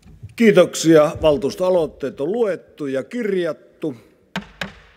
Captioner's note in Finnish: kopauttaa nuijaa